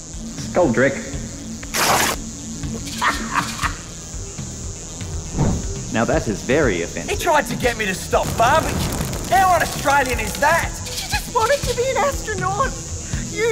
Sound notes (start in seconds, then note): 2.9 laughs